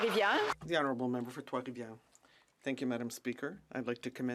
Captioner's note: speaking French